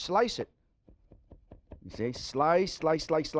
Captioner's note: knife slicing